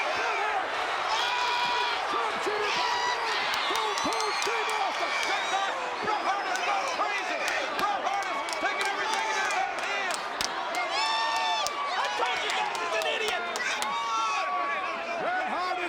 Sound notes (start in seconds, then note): 2.8 audience cheers; 11.0 audience cheers